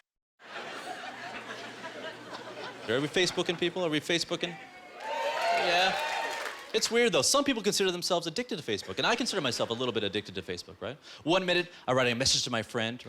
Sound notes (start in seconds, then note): 4.4 audience cheering